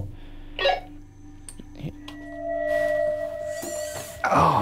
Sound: walkie beeps

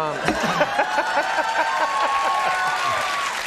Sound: applause

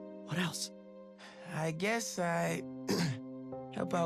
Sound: clears throat

